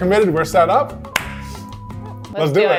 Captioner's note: clap